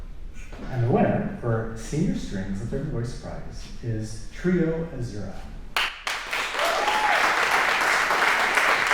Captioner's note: applause